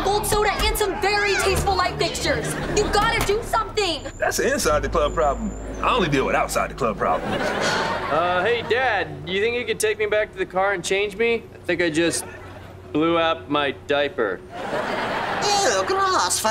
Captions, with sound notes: and some very tasteful light fixtures! You've gotta do something! That's a inside the club problem! I only deal with outside the club problems. [sighing] Hey, Dad, do you think you could take me back to the car and change me? I think I just blew out my diaper. Eww! Gross! For real?